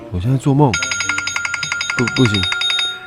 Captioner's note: alarm sound